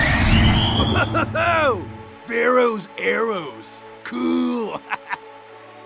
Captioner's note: laughs